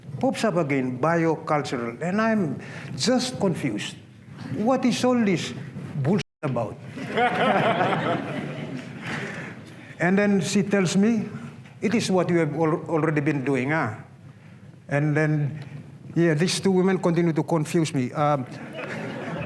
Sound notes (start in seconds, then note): 6.9 laughter; 18.5 laughter